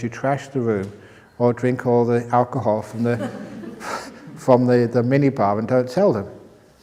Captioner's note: laughter